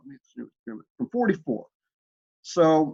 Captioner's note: murmuring